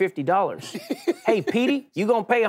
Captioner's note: Charlamagne laughs